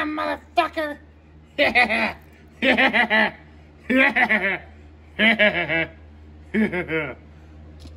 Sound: Caprice laughs and giggles

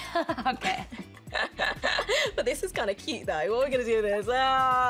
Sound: laughs

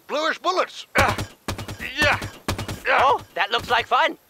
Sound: Simmons grunts wtih effort

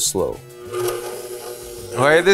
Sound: machine whirring

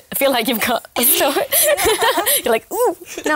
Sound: laughter

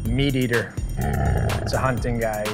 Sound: growling

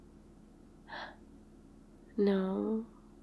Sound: smol gasp

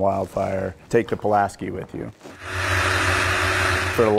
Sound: plane flying

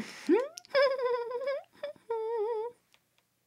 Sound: giggling

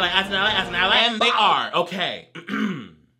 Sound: transition twangs; clears throat

